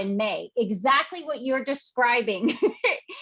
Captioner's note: chuckles